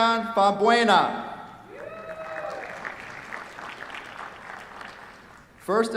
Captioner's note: cheers, applause